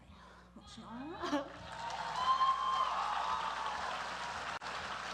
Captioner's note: applause